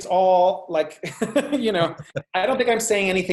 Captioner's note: laughs